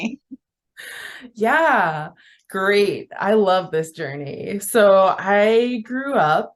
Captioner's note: laughs